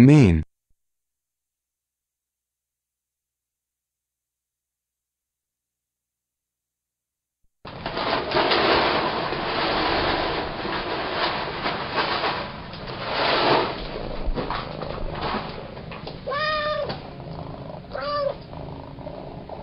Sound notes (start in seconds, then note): 6.8 Hungry cat eating www.sounddogs.com